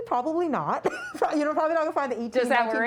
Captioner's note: laughter